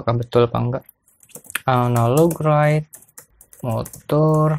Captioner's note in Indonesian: typing code